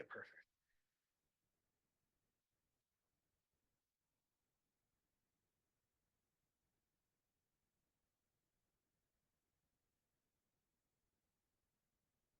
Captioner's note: audio cuts out